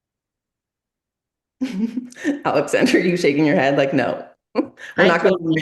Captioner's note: laughs